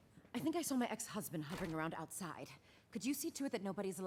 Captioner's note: none